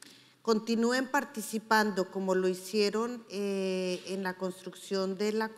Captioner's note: speaking in foreign language